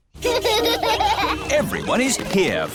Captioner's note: children laughing